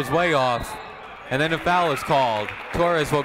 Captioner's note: whistle tweeting